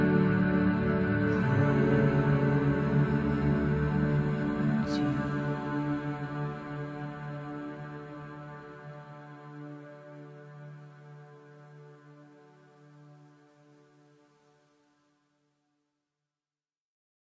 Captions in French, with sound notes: Poooooouuuuu. Tiiiiiiine. [silence]